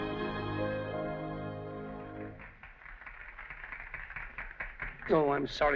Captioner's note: applause